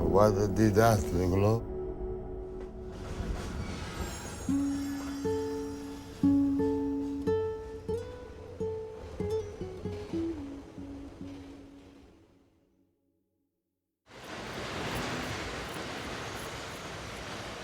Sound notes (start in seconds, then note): 2.9 train wheels squeaking; 8.9 sad music